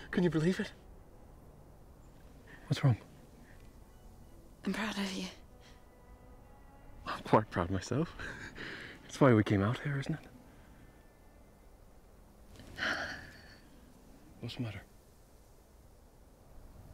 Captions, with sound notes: Can you believe it? What's wrong? - I'm proud of you. - Well, I'm quite proud of myself. That's why we came out here, isn't it? (Brigit sighs) What's the matter?